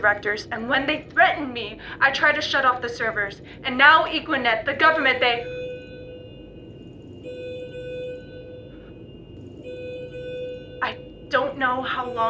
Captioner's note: alarm